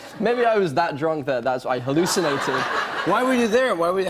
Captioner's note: laughter